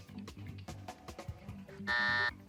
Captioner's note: buzzer sounds